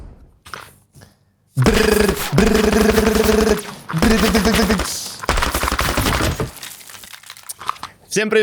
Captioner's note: gunfire sounds